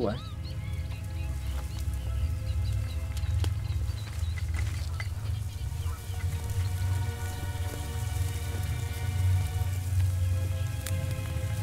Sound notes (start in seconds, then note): 0.2 ominous music; 3.0 grass rustling